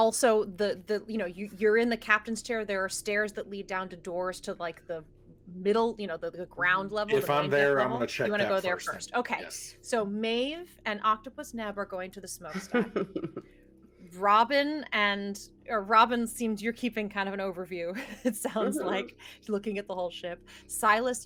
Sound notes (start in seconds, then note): 12.5 laughs